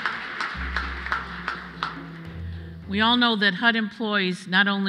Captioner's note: applause